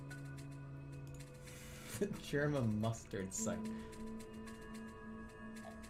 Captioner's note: holding out laugh